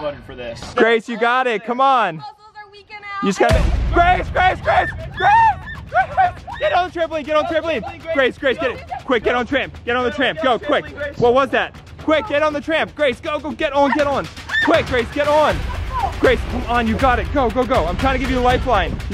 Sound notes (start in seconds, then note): 3.8 suspense music; 4.5 screaming